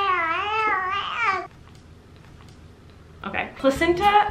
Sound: baby cooing

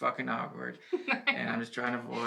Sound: she laughs

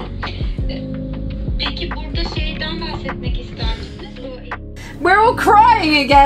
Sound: speaking in foreign language

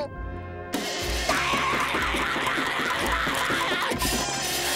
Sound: screaming

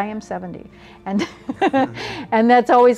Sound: laughing

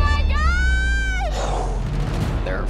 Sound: sighs

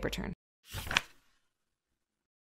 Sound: page flip sound

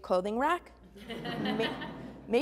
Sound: laughing

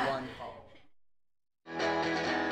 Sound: group laughs

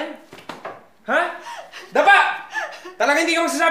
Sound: Ling sobbing

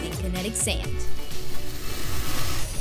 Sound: slicing noise

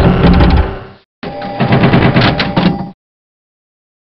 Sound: 3D Pinball sounds; More 3D Pinball sounds

